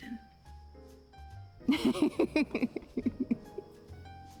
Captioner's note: laughing